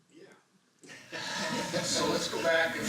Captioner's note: laughter